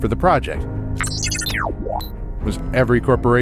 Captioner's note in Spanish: beep inquisitivo